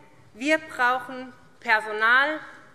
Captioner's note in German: none